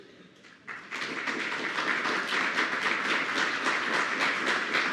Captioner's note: attendees applauding